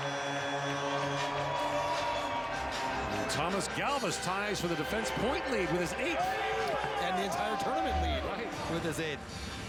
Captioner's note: horn